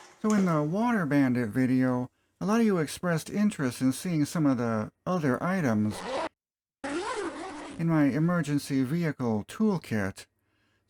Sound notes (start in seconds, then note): 6.8 zipper